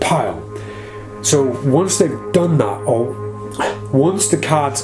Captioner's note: sighs